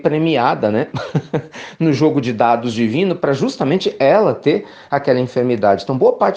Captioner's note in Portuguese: risos